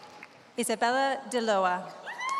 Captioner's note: applause